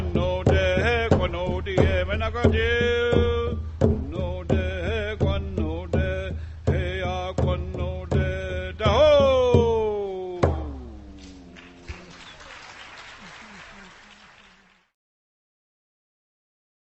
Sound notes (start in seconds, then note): 11.2 applause